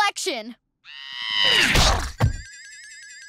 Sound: screaming

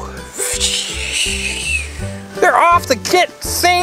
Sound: whooshing

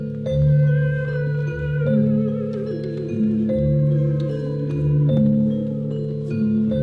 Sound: humming sounds and gentle metallic sounds

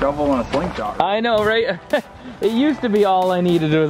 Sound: chuckles

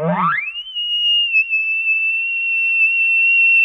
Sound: caller Bugling

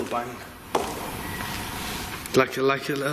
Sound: whistling

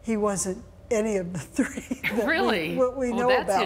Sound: chuckles

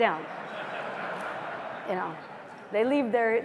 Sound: laughter

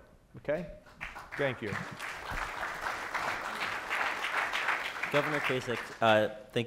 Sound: audience applauds

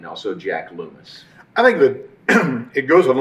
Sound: clears throat

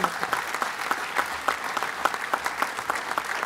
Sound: applause

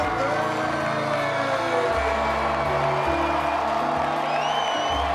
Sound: audience cheering and clapping; audience member whistles

